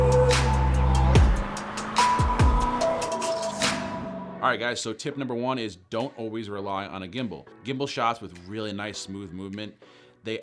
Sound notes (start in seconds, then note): 0.0 car accelerates; 4.1 laid-back upbeat music